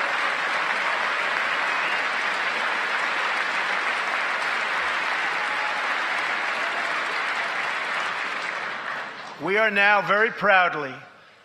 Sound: applause

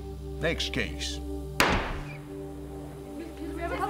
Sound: gavel banging softly

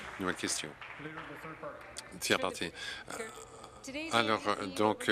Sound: applause

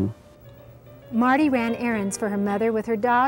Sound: voiceover

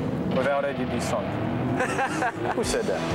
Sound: laughs

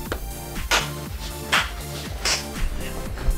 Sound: clapping

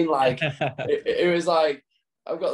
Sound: laughs

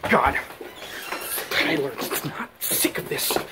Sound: breathing heavily

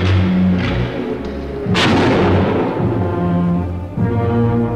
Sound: gun firing

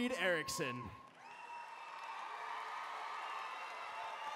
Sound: applause

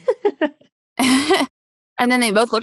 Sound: both laugh

